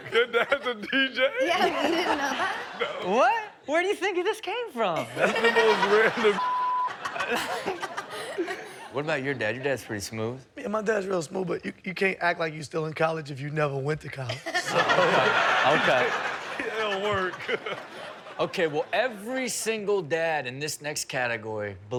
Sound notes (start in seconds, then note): 0.0 laughs; 5.0 Chanel and audience laughing; 6.4 beep; 14.2 all laughing; 14.4 Chanel and audience laughing